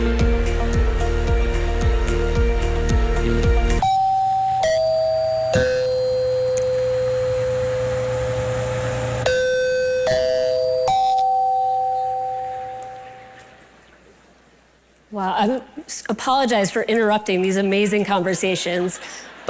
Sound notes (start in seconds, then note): 3.7 bell chiming